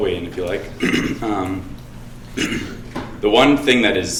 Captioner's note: throat clearing